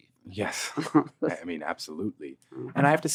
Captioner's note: laughing